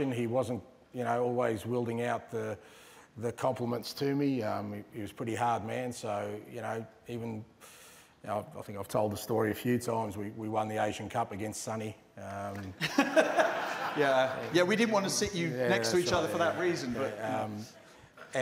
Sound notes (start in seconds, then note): 12.7 laughter